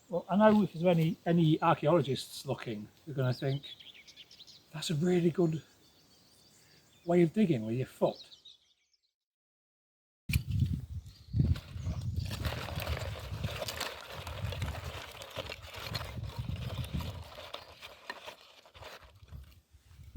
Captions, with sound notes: Well, I know if there's any, any archaeologists looking, they're gonna think, "That's a really good [Wind] [Sticks and paper rustling]